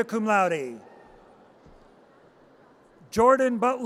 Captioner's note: audience cheers